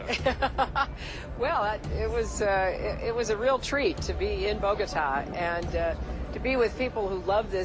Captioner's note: laughs